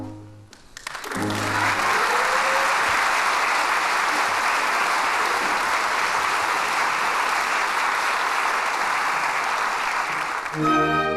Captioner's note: applause